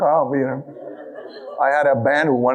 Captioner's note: audience laughing